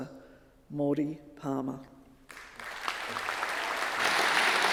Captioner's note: audience clapping